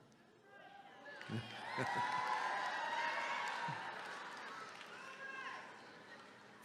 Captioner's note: audience clapping and cheering